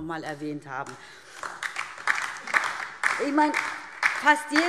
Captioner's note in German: Beifall DIE LINKE und vereinzelt SPD